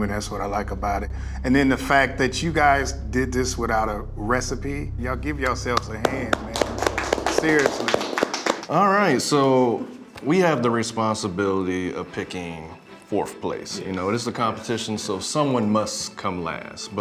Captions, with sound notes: and that's what I like about it. And then the fact that you guys did this without a recipe, y'all give yourselves a hand, man. (applauds) Seriously. - All right, so we have the responsibility of picking fourth place. You know, this is a competition. So someone must come last.